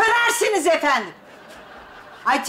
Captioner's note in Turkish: Gülme efekti